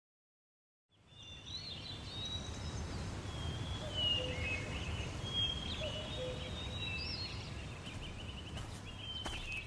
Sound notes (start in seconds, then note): 0.9 bird chirping; 5.2 footsteps